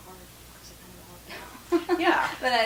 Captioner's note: laughs